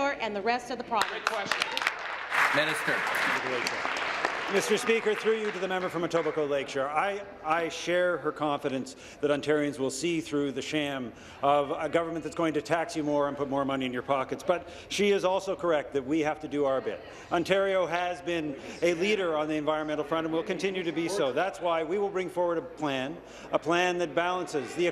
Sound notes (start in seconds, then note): 5.2 applause